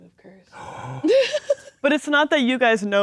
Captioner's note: gasps; laughing